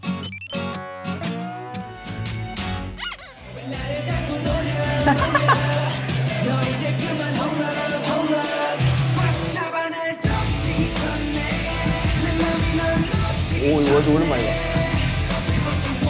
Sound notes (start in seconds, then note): 4.8 laughter of relief♥